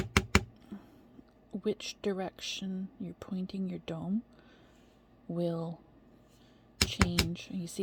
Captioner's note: tapping